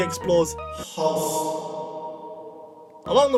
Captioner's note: with excessive reverb